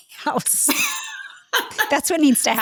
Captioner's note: laughter